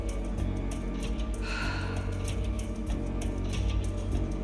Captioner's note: sighs